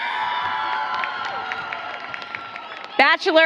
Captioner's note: applause